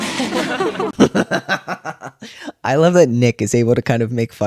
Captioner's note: laughter